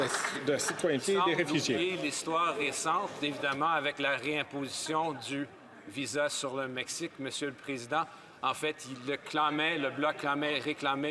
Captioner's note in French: applaudissements